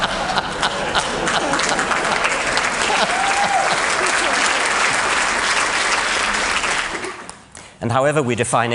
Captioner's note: laughter; applause